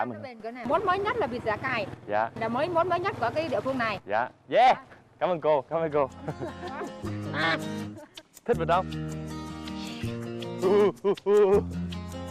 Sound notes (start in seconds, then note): 7.3 duck sound